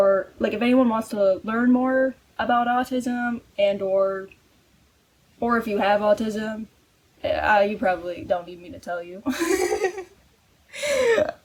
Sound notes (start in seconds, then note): 7.2 stammering; 9.3 laughs